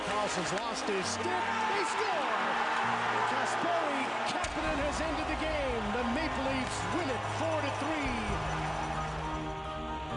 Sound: cheers and Applause

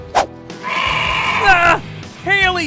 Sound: bleating

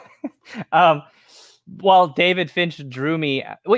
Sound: laughs

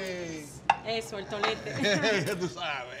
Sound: speaking spanish

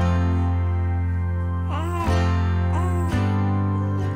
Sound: swooshing; upbeat music

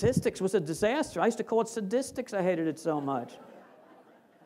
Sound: laughter

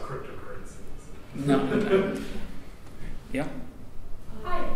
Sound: audience member laughs

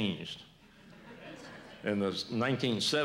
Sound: laughter

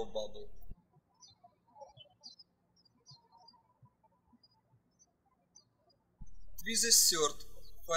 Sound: birds chirping

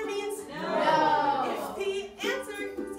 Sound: crowd

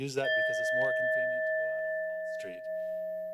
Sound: bell sound

